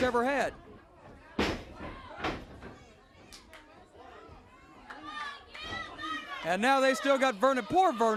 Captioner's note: crowd cheering